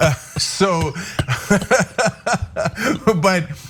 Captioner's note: laugh